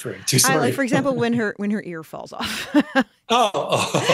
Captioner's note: laughs